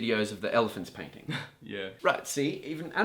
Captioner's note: laughs